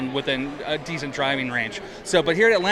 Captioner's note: none